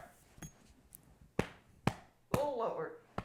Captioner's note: back slapping